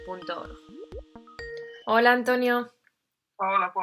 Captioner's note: Sonido llamada de Skype